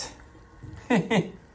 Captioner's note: laughs